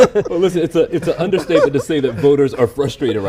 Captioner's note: laughter